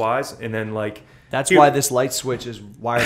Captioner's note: laughter